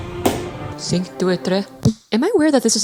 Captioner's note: hits microphone